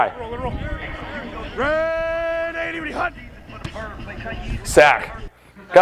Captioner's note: quarterback yells play call